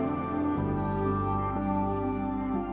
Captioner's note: phone vibrating